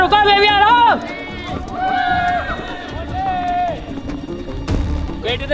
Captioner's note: cheering